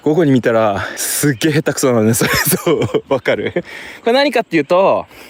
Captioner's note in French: rires